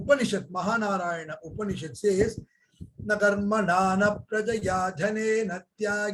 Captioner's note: speaks in Hindi